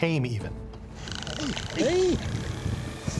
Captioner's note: whale clicking